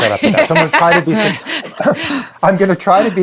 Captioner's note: laughing